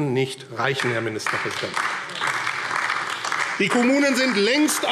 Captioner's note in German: Beifall AfD